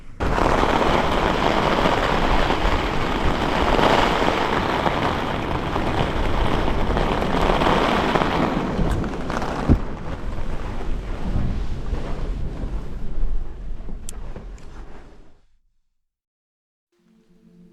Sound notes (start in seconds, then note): 0.0 loud wind & rain; 14.0 click